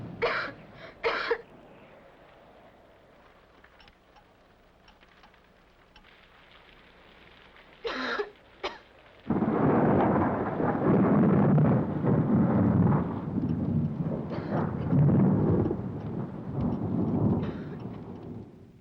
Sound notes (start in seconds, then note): 1.0 Helen coughs; 6.1 rain patters; 7.8 Helen coughs; 9.1 thunder rolls; 13.3 Helen coughs; 13.3 thunder rumbles